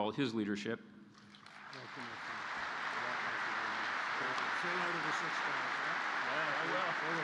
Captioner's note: applause